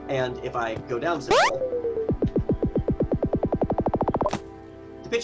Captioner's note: switch beeping